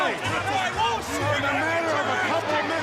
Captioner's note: crowd chatter